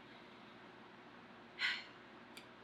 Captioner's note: exhales loudly